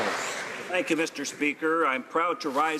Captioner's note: applause